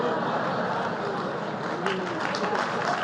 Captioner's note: applause